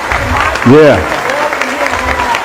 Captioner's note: applause